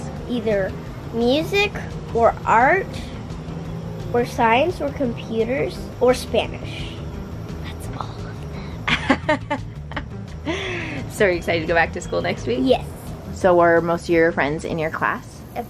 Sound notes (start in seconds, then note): 8.6 laughs